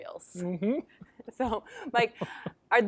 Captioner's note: chuckles